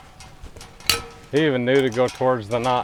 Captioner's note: wire breaks